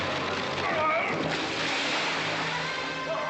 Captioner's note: dramatic music; splash